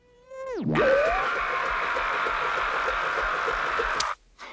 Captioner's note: screaming